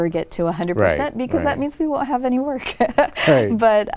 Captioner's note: laughs